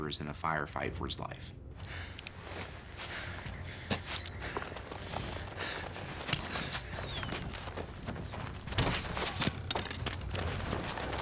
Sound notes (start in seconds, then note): 2.9 panting nervously; 4.2 arrows whoosh